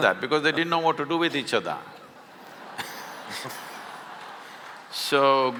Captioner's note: laughter